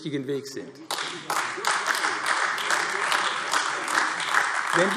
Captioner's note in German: Beifall AfD